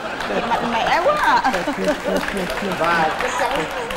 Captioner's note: laughing; clapping